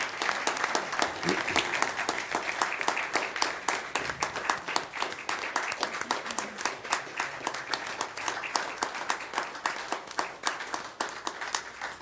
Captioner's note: applause